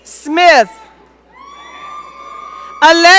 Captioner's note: audience cheering